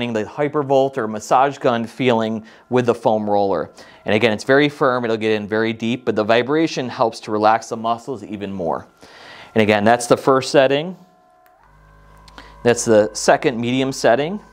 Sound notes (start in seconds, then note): 10.8 foam roller buzzing